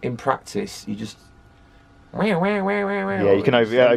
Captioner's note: undulating whammy noise